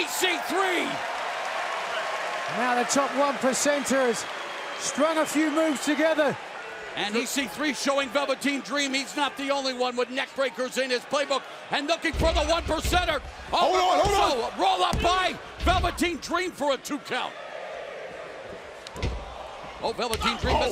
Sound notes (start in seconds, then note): 2.8 cheers and applause